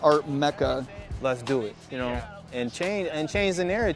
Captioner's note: male Voice